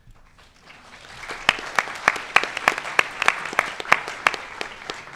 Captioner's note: audience applauding